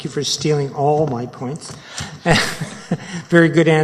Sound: chuckles

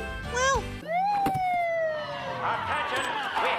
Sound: sirens wailing

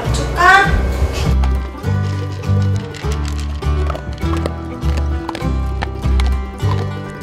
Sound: crunch, crunch

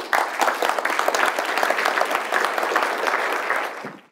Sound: applause

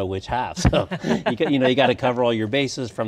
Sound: laughing

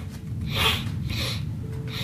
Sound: sniffle

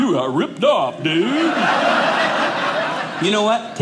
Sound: audience laughing

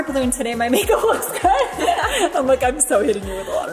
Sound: laughing

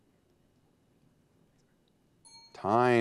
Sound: timer dings

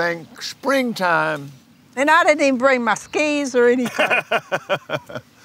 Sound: laughs

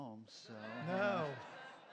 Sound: laughter

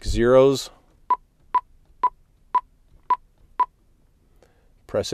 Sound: beeping

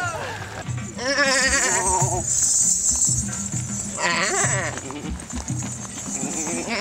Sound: upbeat music; men bleating

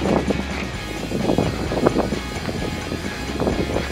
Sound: wind blowing

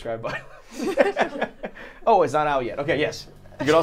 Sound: laughing

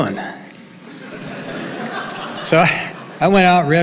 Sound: audience laughing

